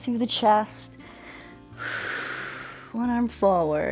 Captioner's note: inhales and exhales